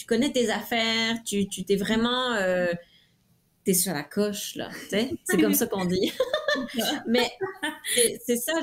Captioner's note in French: rires